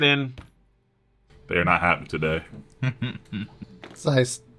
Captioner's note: softly laughs